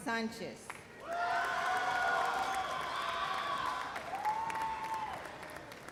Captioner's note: loud cheers and applause